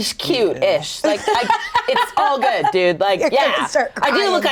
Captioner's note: laughing